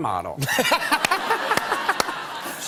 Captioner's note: laughter